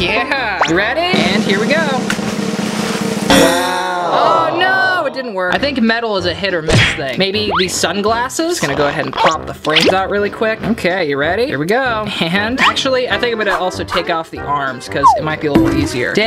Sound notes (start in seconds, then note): 1.1 drum rolling; 3.4 crowd